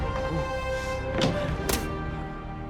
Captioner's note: none